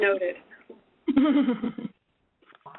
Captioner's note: laugher